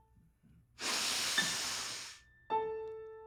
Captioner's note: sniffing